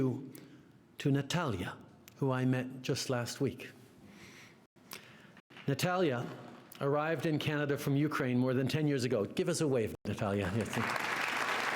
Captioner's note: applause